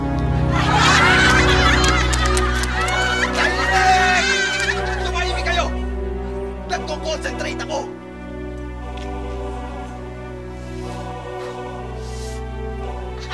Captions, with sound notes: [crowd laughing] [crowd] Can’t fly! Can’t fly! Silence! You shut up! I’m concentrating. [exhales]